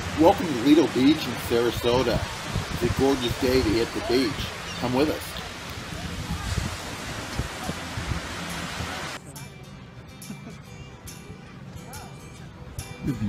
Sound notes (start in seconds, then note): 6.3 water splashing; 9.7 bright music